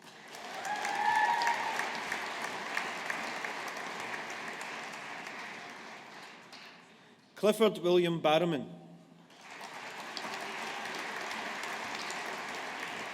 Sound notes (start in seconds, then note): 0.0 audience applauding; 9.3 audience applauding